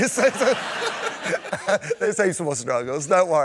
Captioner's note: laughter